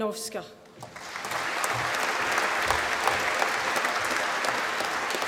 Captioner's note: applause